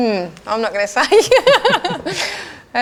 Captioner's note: laughs